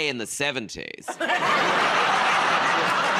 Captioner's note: laughter